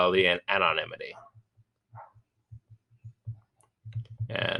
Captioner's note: dog barking